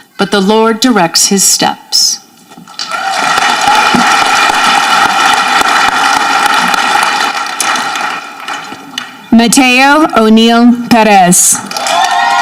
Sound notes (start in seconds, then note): 2.7 audience clapping